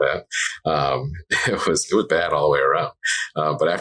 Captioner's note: laughs